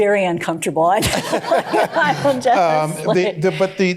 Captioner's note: laughter; laughing